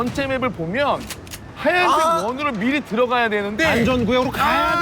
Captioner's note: argh!